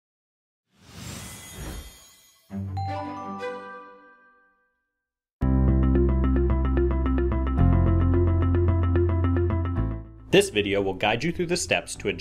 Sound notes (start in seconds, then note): 1.3 bells chime; 5.4 upbeat music